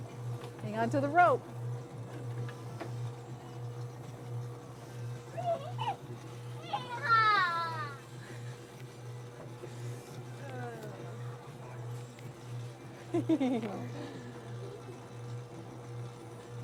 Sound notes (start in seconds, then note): 5.4 laughing